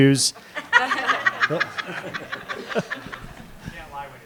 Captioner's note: audience and panelists laughing